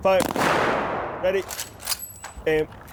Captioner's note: guns booming